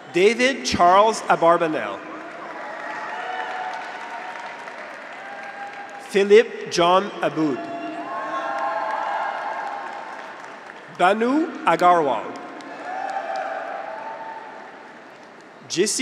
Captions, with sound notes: David Charles Abarbanel. (graduates cheer) (audience applauds) Philip John Abboud. (graduates cheer) (audience applauds) Bhanu Agarwal. (graduates cheer)